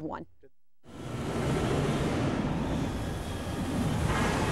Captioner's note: air whooshing violently